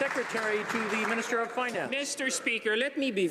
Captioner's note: some Applause